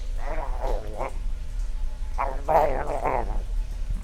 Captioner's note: zombie chews